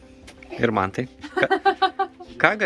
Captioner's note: laughs in Lithuanian